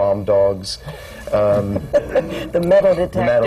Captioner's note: laughter